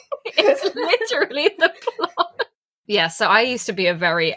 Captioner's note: laughing